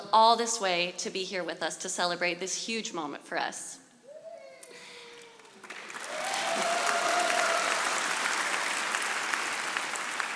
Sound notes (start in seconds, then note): 5.2 audience applauding